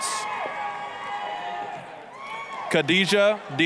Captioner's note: applause, cheering